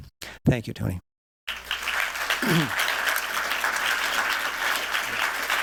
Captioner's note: applause